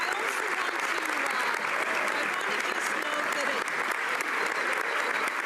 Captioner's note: applause